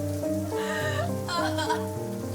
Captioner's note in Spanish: Sollozos